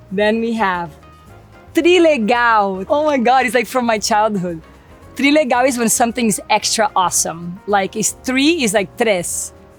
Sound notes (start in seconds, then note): 0.8 speaks Portuguese; 5.1 speaks Portuguese; 8.8 speaks Portuguese